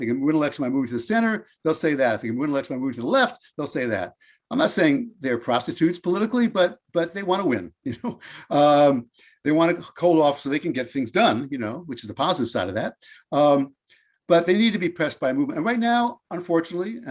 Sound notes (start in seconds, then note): 7.5 laughs